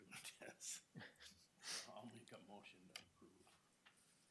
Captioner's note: laughs